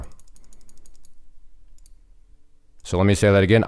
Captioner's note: mouse clicking